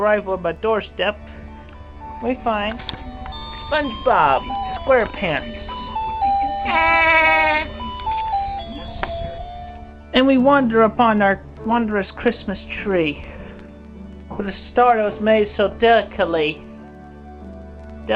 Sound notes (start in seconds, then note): 6.6 imitates Spongebob’s laughter